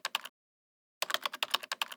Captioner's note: typing